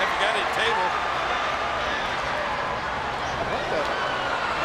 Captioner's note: spectators cheering